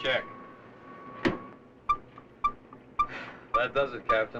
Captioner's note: beeping; sighs